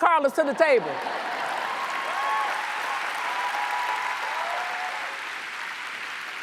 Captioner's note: audience cheers and applauds